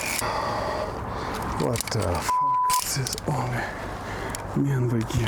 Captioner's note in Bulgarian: бипкане